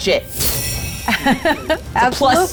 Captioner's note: laughs